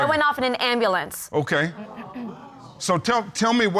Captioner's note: audience exclaiming